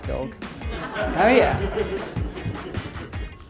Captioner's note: audience laughs